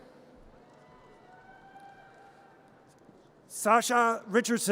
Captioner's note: audience cheers